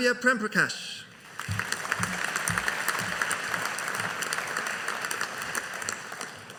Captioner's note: audience applauding